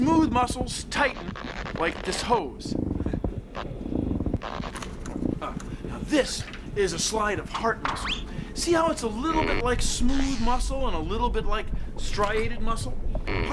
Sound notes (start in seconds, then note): 4.4 squeaking